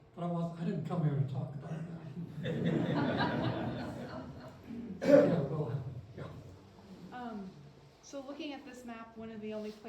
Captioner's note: laughter